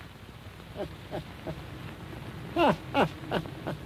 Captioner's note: laughing